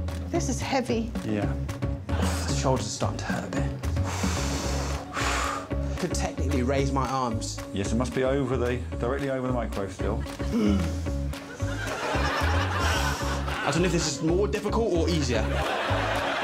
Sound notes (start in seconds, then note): 3.9 exhales; 10.4 groaning